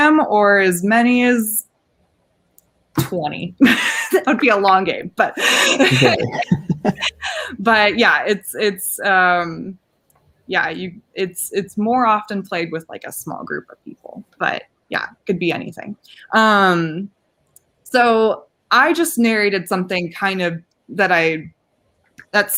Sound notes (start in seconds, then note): 5.2 laughing